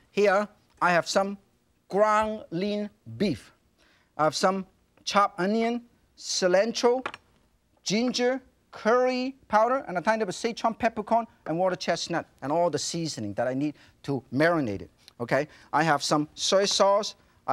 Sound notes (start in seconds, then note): none